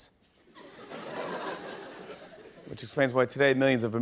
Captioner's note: laughter